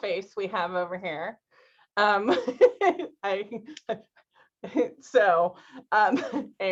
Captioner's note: laughter